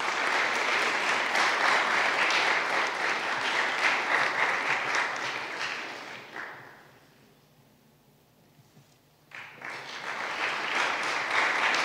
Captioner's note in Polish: oklaski